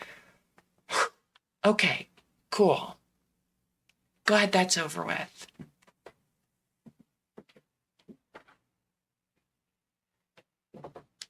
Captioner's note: sigh